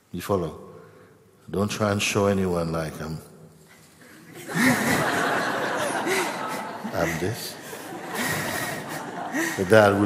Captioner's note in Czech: smích